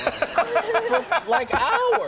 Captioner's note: everyone laughs; andy imitates gurgling